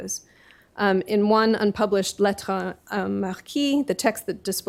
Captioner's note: speaking french